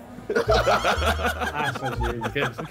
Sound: all laughing

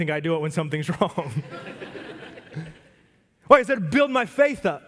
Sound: congregation laugh

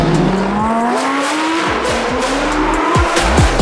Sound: engine roaring

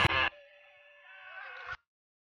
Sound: Red screams in agony

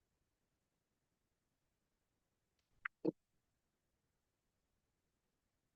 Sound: audio cuts out

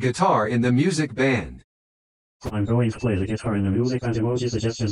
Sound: voiceover speaking

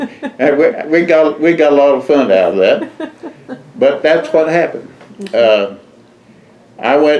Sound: laughter

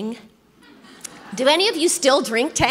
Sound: congregation laughs

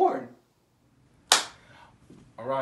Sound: claps hands

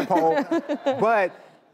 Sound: audience laughing

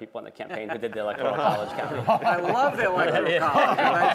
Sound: laughter

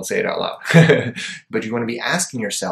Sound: chuckles

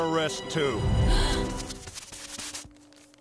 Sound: gasping

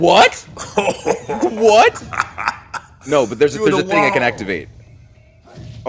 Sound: laugh

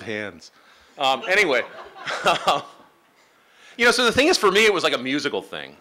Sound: laughing

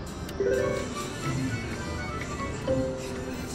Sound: machine beeps

